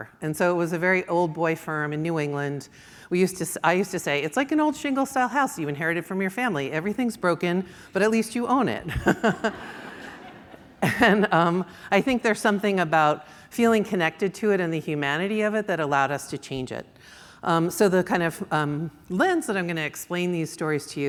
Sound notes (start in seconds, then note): 8.9 audience laughs; 8.9 laughs